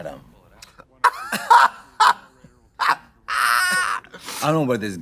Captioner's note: Trixie laughs